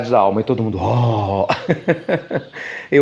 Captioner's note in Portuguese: Risos